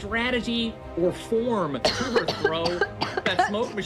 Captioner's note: coughing